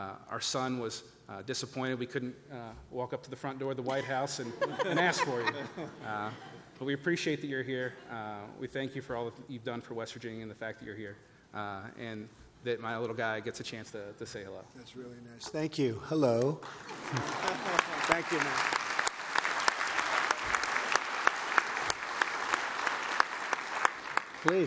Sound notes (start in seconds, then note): 4.4 laughter; 18.1 applause